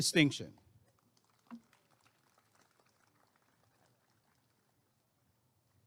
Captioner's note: applause and cheering